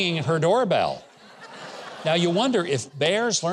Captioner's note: audience laughs